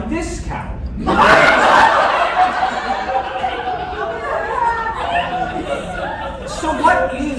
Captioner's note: laughter, confusion